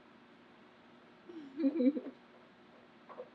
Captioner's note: laughs